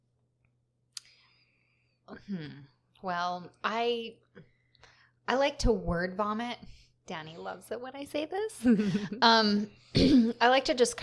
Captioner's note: sarcasm, laughter